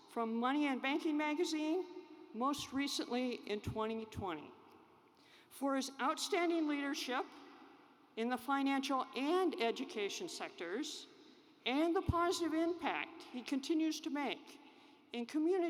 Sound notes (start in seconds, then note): none